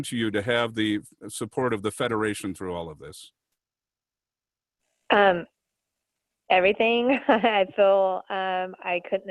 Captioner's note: chuckling